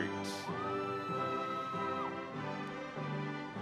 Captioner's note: audience cheering